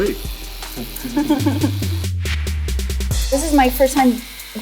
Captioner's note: laughs